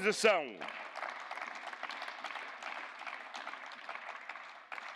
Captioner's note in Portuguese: Aplausos